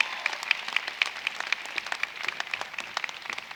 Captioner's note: applause